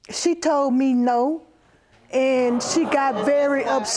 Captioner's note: audience exclaiming